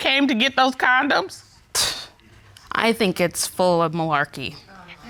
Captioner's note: scoffs